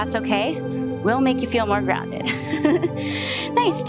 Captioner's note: laughs